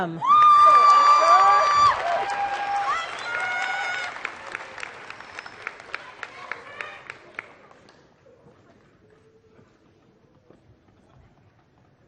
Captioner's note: applause